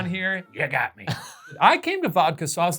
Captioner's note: chuckles